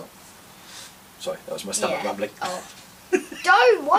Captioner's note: laughs